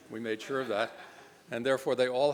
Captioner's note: laughs